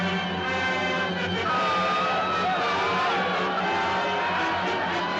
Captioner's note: Gritos Continuam